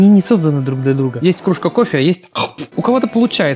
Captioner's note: spit